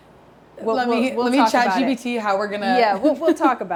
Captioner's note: chuckles